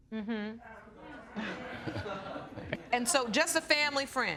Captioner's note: audience laughing